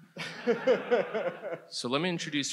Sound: laughs

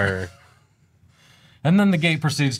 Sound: both laugh

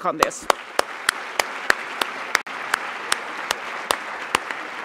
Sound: applause

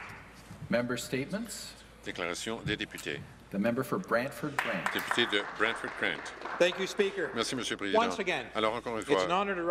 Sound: some Applause

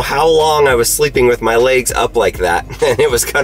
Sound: laughs

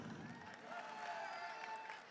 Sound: audience cheering and applauding

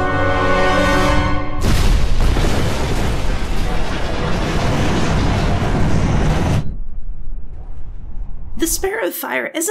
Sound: crash

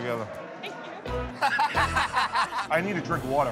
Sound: laughter

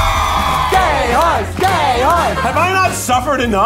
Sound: group chants

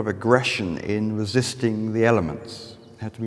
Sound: birds chirping

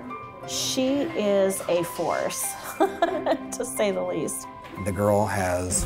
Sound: laughs

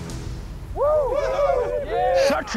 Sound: men cheer

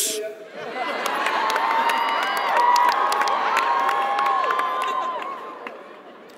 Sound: audience laughs and applauds

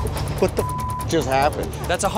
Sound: beep

